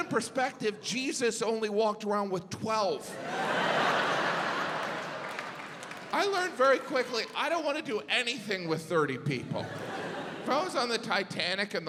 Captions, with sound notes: To put it in perspective Jesus only walked around with 12. (audience laughs) I learned very quickly I don't wanna do anything with 30 people.